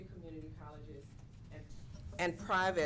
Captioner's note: off mic